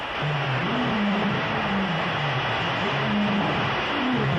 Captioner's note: animals growling